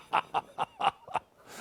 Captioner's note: laughter